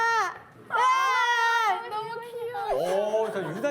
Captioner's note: agh!!